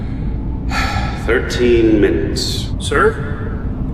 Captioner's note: sighs